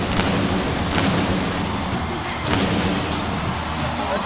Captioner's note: fireworks popping